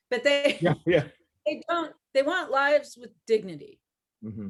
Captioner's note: laughs